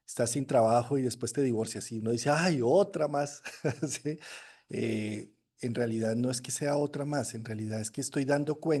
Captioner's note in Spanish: risas